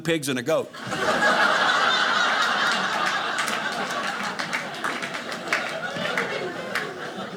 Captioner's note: audience laughing